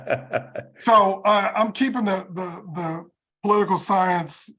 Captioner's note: laugh